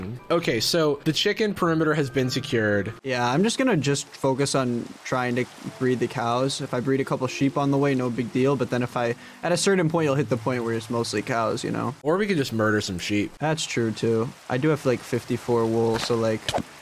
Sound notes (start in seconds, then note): none